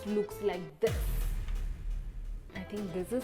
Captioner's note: crash